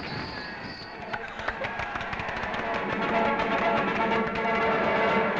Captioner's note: vigorous clapping; brass fanfare